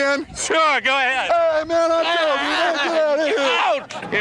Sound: yelling

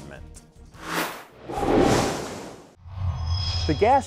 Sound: sound Effects

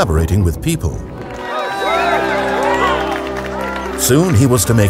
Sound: crowd cheering and applauding

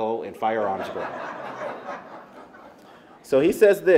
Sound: laughter

